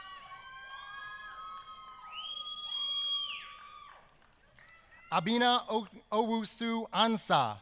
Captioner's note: applause